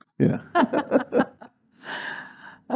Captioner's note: laugh